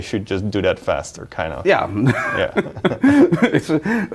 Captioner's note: both laughing